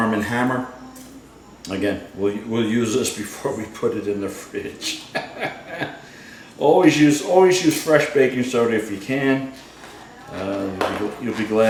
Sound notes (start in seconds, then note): 4.8 laughs